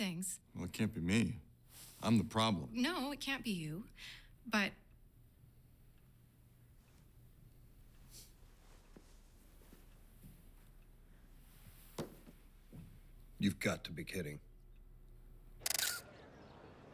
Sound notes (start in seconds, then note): 7.7 sniffs; 15.6 <i> camera shutter clicking</i>